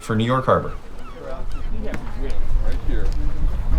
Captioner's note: crew members chattering